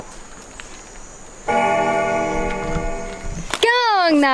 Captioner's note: bell ringing